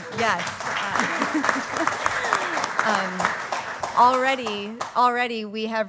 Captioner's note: applause